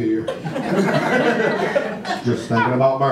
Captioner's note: audience laughter